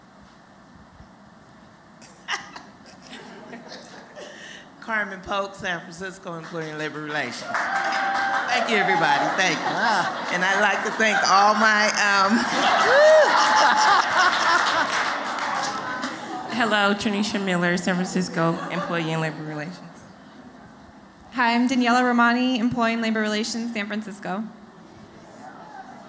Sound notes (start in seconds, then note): 7.9 applause; 17.3 laughter